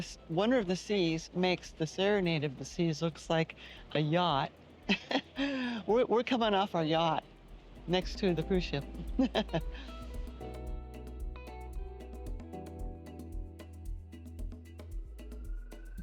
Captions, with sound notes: Wonder of the Seas makes the serenade of the seas looks like a yacht. We're coming off our yacht next to the cruise ship. [laughs]